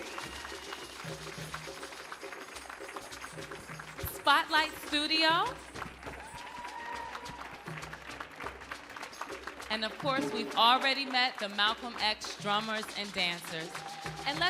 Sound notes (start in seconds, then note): 6.0 audience cheering